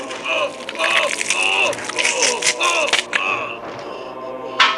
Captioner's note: rip, squish, tear, scream; splat, tear, squish, scream; clank